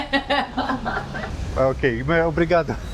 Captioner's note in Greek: Γελώντας